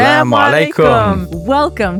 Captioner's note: speaking foreign language